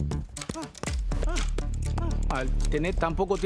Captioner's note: gruñidos